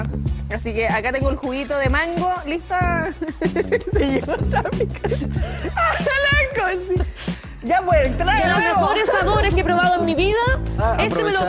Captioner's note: laughs